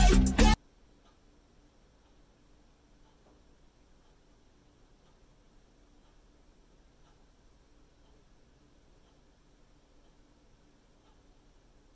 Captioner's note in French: Choc inaudible